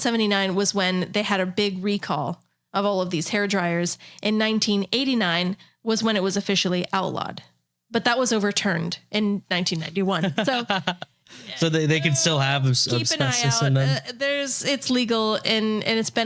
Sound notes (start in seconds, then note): 10.2 laughing